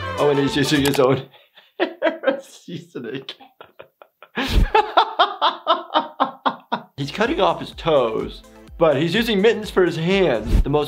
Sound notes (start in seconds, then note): 3.5 laughing